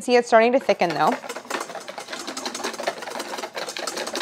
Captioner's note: metal clanging